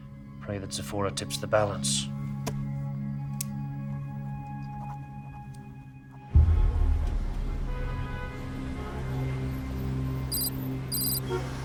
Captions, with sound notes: - Pray that Sephora tips the balance. (gentle music) (car horns honking) (gentle music)